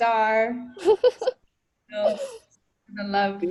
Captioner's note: laughs